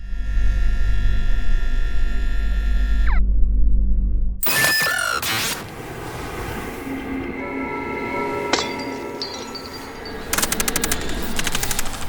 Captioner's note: machine noise